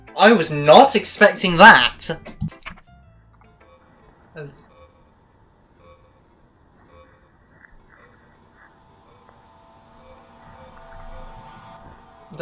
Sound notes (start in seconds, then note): 2.4 atomic bomb click